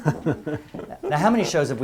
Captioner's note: laugh